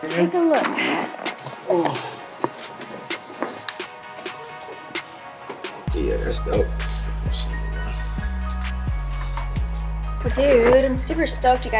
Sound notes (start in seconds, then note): 1.8 grunts; 7.6 chill hip-hop music